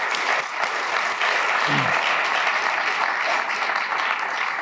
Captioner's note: applause